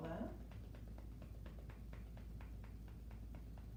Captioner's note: gentle tapping